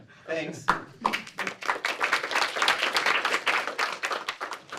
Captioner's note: applause